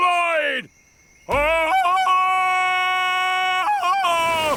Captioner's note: ululating